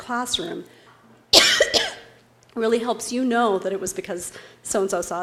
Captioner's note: cough